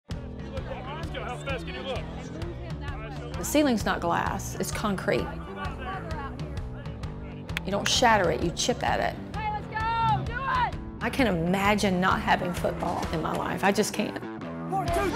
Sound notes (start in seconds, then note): 1.4 multiple people talking